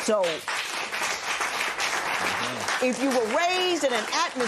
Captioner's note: applause